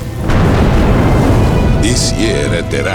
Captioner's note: flames roar